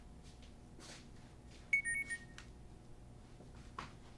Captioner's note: phone Beeps